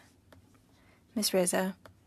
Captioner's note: speaking French